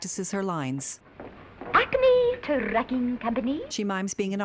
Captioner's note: affected accent